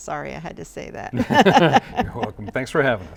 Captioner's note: laughs